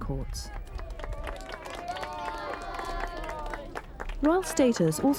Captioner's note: crowd applauding